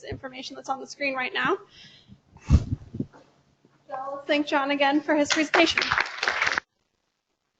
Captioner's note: applause